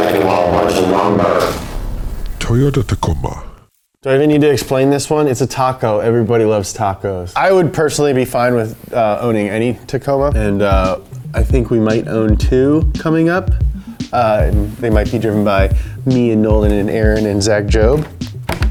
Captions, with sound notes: that can haul a bunch of lumber? - [Voiceover] Toyota Tacoma. Do I need to explain this one? It's a taco. Everybody loves tacos. I would personally be fine with owning any Tacoma. And I think we might own two coming up. They might be driven by me and Nolan and Aaron and Zach Jobe